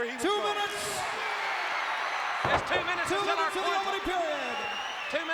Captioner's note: applause